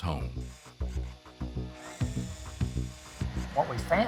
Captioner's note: device whirring